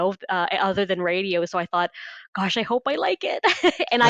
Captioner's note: laughs